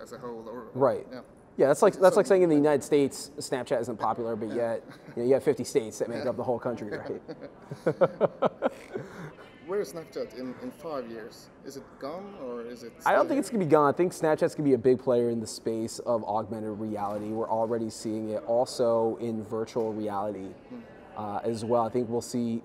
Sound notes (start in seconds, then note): 4.6 both laugh